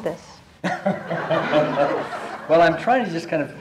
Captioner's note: laughter